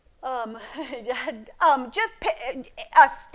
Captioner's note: laughs